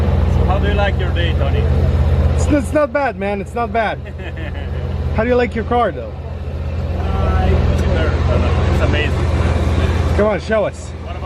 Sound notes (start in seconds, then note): 3.9 laughs